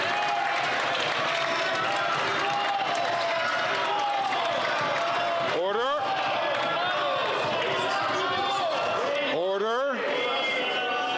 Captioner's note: some Applause